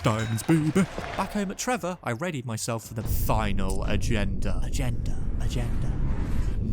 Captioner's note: more echoes